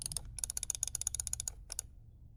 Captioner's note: faster mouse clicking; nervous mouse clicking